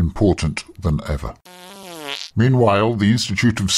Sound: passing wind

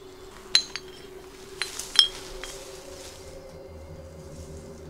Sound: windchimes tinkling

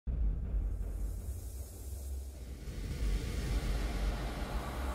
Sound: exaggerated echoing ambient noise

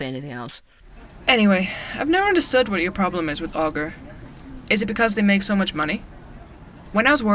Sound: ambience - coffee shop

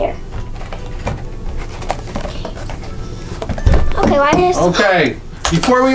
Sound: boxes rattling

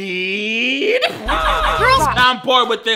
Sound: boy grunting

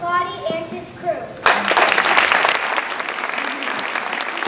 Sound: applause

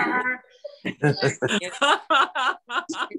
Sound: laughter

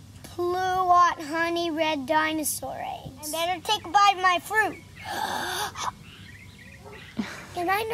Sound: exaggerated breath in

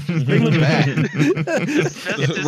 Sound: laughter

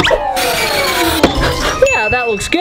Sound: screwing sound

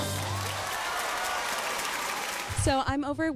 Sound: applause

